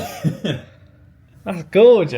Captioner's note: laughs